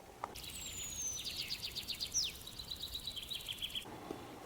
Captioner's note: birds chirping